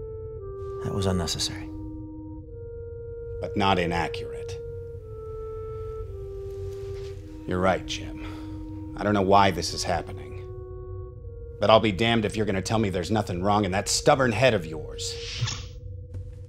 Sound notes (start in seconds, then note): none